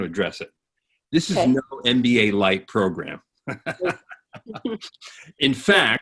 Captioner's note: chuckling